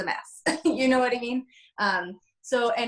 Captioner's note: laughs